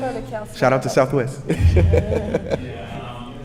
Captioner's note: brief laughter